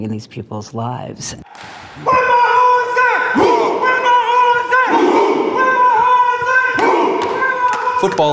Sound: chanting

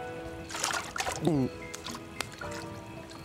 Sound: <i>gulps</i>

